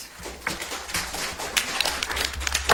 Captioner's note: audience applauds